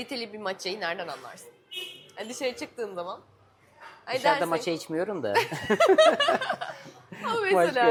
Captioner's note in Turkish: kahkaha